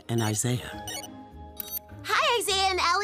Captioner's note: electronic beeping